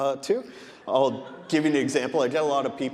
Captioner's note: audience laughing